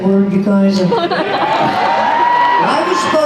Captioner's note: cheers